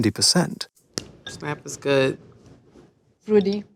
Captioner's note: chocolate snaps